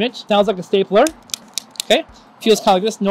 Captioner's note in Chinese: 喀嚓的声音